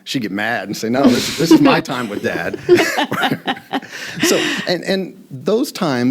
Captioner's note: laughing